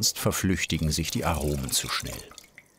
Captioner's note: none